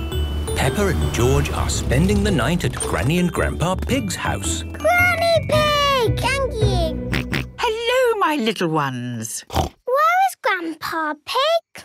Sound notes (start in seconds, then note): 6.1 George snorting; 9.4 snorting